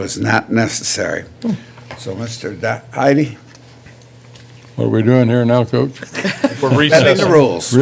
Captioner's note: laughter